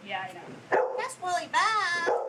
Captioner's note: dog barking